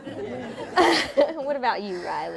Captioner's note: laughter